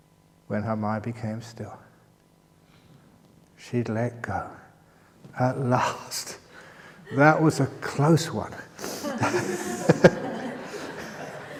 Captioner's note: laughter